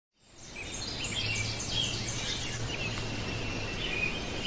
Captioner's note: birds chirping